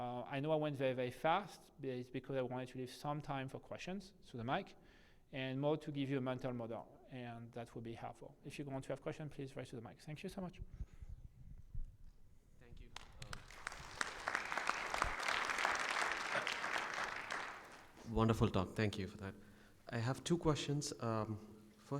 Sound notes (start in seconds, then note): 12.9 audience applauds